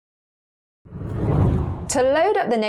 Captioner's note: video effect whooshes